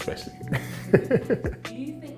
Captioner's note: laughs